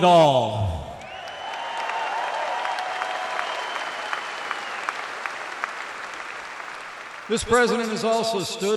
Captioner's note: applause